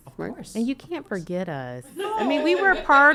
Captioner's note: laughing